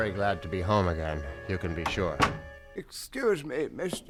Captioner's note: door closes